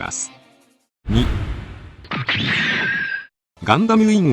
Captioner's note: sound effect